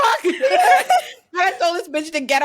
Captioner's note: laughs